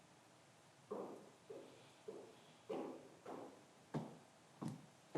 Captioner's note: footsteps approaching